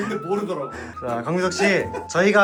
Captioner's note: sigh